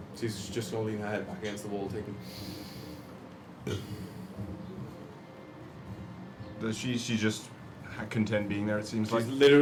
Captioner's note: inhales